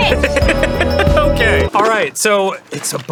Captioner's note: laughing